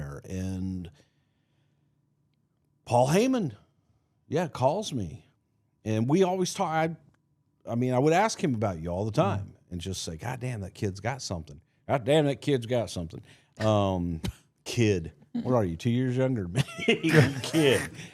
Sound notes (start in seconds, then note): 14.3 Mark laughs; 16.6 laughs